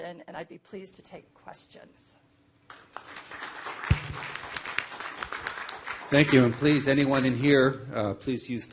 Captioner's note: applause